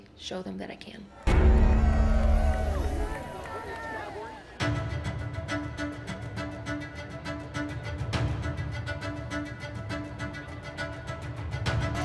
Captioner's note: applause and music playing